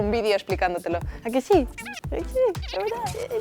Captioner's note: toy whispers